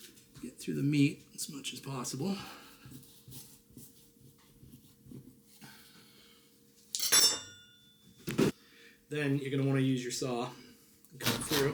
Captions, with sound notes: get through the meat as much as possible. (metal clanging) Then you're gonna want to use your saw, and cut through.